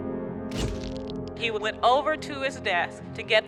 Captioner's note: shutter clicks